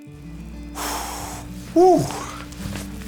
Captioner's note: priest exhales